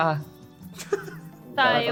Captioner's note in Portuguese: Risada